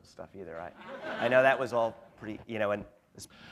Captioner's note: laughter